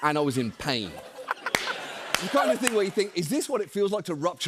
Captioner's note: laughter